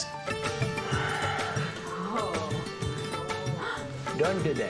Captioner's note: exhales